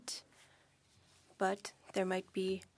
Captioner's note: speaking French